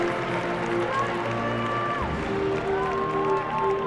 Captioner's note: applause